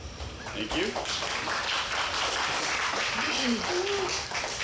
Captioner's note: audience applauds